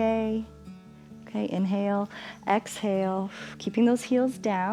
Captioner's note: exhales